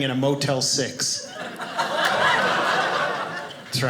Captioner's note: audience laughing